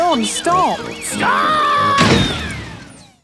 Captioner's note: thuds